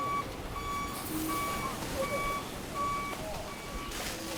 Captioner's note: truck beeping